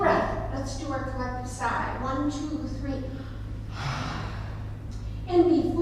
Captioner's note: sigh